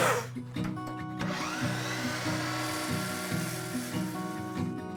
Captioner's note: miter saw whirring